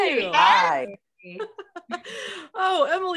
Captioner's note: laughs